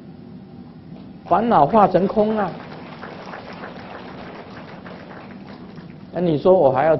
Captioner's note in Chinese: 眾鼓掌